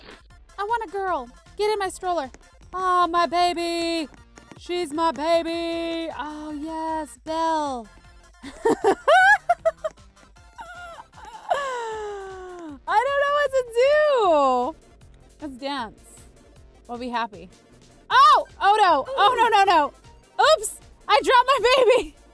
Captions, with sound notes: I want a girl. get in my stroller. Oh my baby She's my baby. Oh, yes Belle *strange laughter* I don't know what to do lets dance I'll be happy oh. oh no. Oh no no no no oops. I dropped my baby